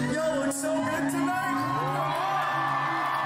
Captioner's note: cheers and applause